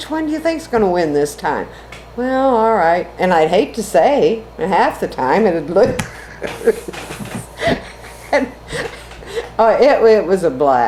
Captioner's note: laughs